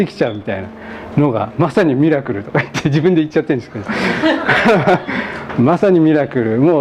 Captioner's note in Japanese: 笑い